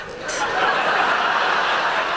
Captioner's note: laughter